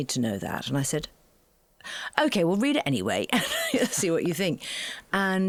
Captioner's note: laughing